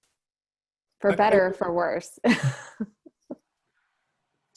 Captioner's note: chuckles